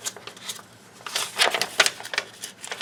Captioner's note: paper crinkling